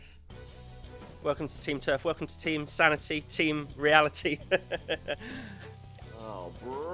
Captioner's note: smug tory laughter